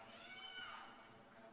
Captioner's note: cheers and applause